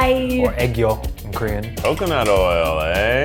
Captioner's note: speaks foreign language